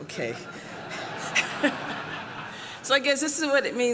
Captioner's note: laughter